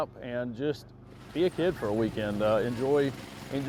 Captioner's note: go Kart rumbles